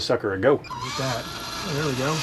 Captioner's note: fan whirling